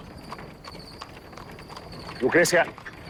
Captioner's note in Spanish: Ruidos de cascos